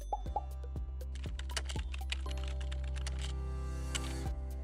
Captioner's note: soft bouncy music; computer keyboard clicking; soft bouncy music